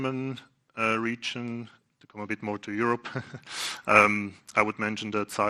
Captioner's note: laughs